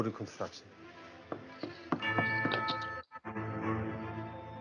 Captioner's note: knocking on wood